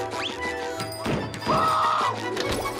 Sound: screaming

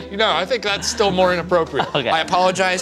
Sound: laughs

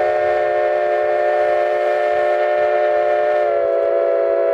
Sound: 487 whistle

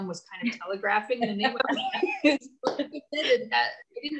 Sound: both laughing

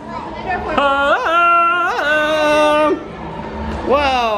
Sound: Tarzan call

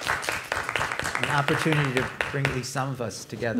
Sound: applause

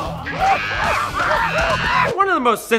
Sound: men shriek angrily

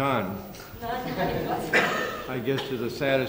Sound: laughter

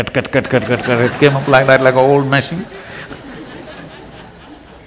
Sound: laughter

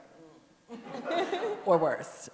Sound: audience laughing

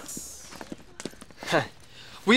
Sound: chuckles

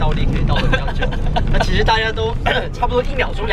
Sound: laughing

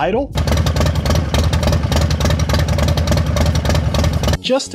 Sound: motorcycle engine roaring

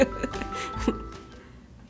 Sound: laugh

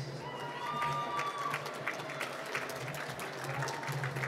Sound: applause

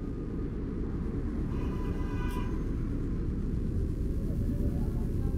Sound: car horn

